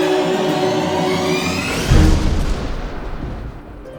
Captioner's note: thunder